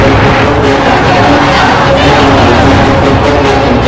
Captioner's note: loud cheers